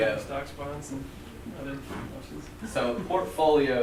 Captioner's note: voiceover